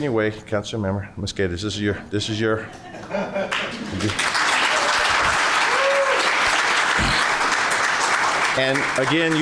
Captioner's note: applause